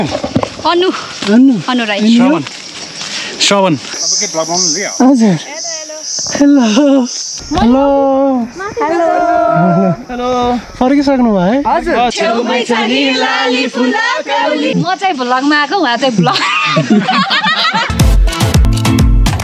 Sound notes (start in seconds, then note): 16.2 laughing